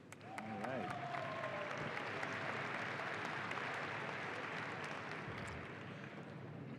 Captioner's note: audience applauding and cheering